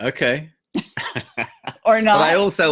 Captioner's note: laughs